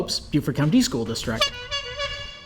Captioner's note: SFX Bike Horn